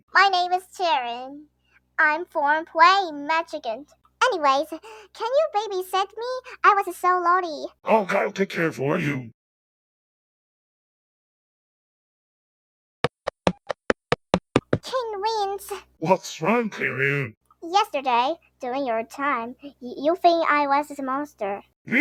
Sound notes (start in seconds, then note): 10.9 ai voices = doo doo